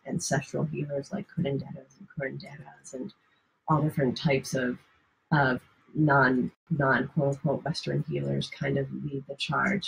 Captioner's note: off microphone